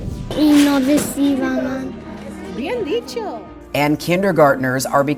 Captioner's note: speaking in foreign language